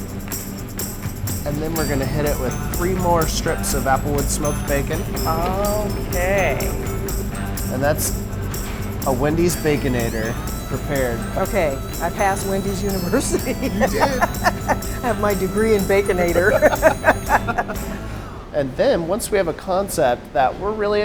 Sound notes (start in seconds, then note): 13.1 laughter